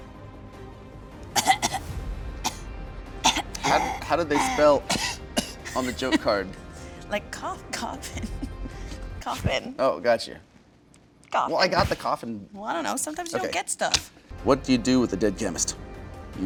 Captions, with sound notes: (coughs) - How did they spell (coughs) on the joke card? - Like cough, coffin (laughing). Coffin. - Oh, gotcha. - Coffin. - Well, I got the coffin. - Well, I don't know, - Okay. - Sometimes you don't get stuff (bangs table) - What do you do with a dead chemist?